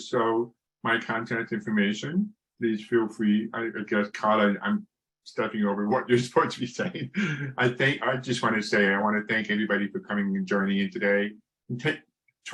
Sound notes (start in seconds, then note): 7.0 laughs